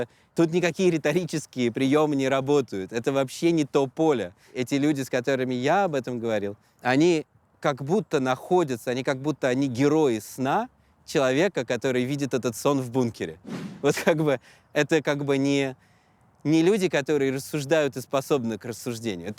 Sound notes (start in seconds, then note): none